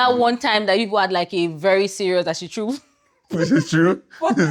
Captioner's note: laughs